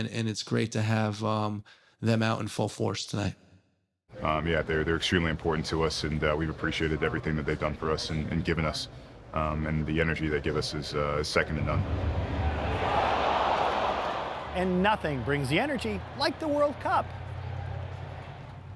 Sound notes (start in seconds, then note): 11.8 crowd chatter